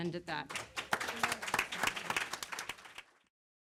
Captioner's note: applause